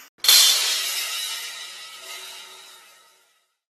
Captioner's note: sound of falling cymbals